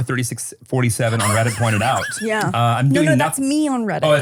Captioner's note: laughs